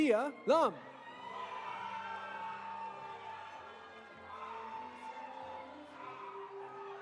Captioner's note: audience cheering; audience applauding